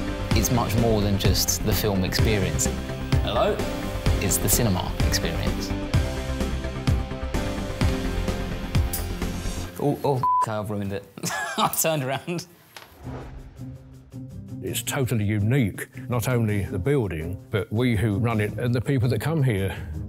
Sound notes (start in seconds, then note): 11.2 laughter